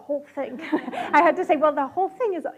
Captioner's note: audience laughs